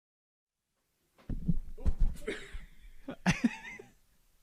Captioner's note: laughing